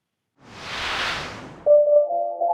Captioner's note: logo swooshing; calm music